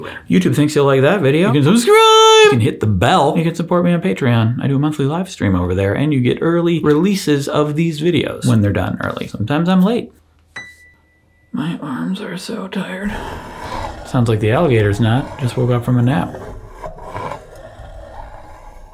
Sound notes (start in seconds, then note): 10.6 piano note ringing; 13.0 alligators growling